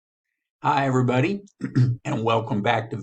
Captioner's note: clears throat